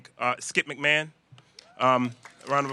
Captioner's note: applause